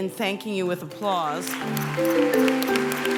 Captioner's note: applause